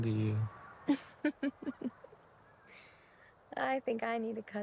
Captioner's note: Betty laughing